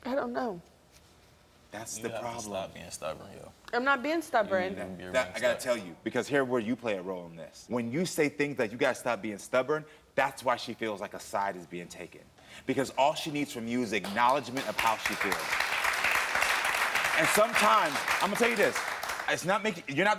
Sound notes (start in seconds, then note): 14.0 audience clapping